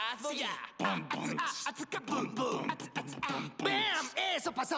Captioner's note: beat-boxing